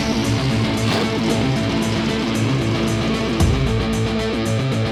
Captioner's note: fast-paced music; engines rumble